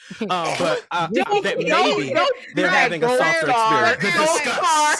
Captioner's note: all chattering